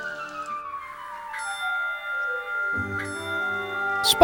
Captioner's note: 2 slow trolley bell dings